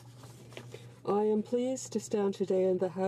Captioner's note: speaking in french